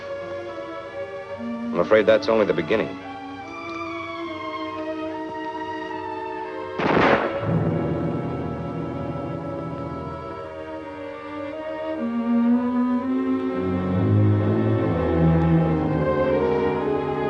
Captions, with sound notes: - I'm afraid that's only the beginning. [solemn instrumental music] [gun bangs] [tense music]